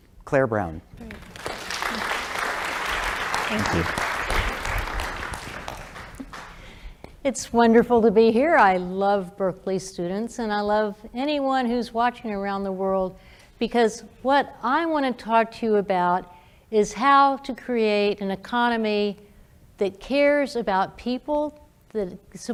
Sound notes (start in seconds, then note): 1.0 applause